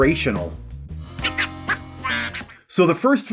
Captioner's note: lecturing in Beaglespeak